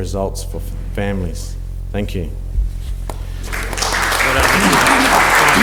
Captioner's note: applause